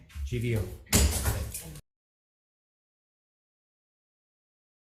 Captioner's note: gavel banging